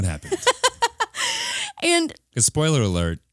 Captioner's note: laughing